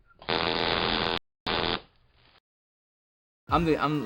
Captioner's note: static buzzes